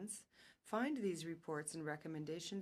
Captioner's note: speaking French